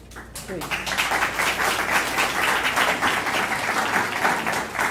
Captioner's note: applause